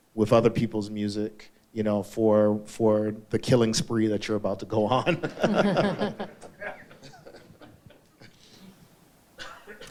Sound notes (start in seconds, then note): 5.1 all laugh; 5.1 laughs